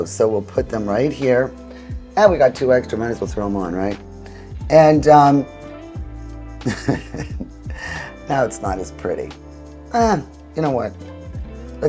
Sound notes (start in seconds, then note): 6.6 chuckles